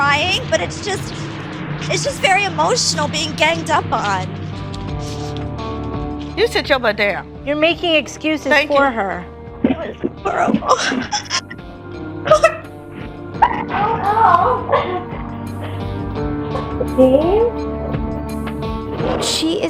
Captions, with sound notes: - I don't care what they think. I mean, obviously, I do because I'm crying, but it's just, it's just very emotional being ganged up on. - You said you're my dad. - You're making excuses for her. - Thank you. - That was horrible. (laughing) - I don't know.